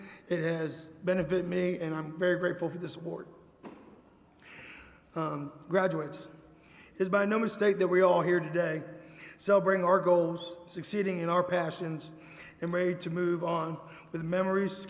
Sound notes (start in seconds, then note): none